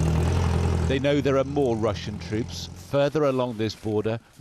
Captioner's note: voice-over